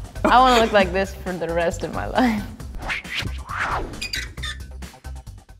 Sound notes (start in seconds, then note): 2.8 swish; 4.0 creak